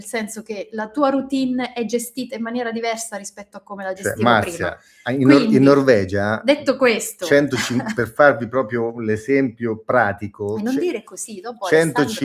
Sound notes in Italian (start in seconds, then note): 7.7 schiarire la voce